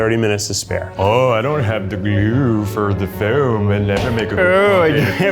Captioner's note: mimics